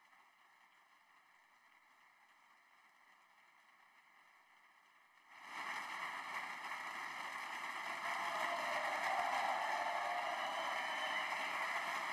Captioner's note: applause